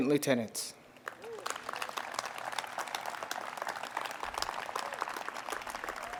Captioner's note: audience applauds and cheers